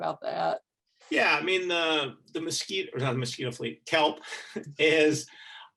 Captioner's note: chuckling